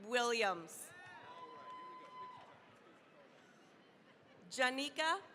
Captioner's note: cheering, applause